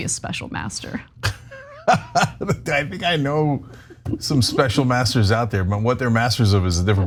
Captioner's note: laugh